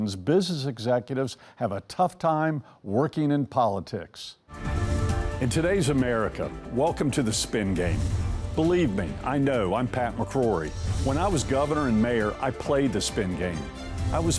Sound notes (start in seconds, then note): 4.2 melodramatic music; 10.7 air whooshes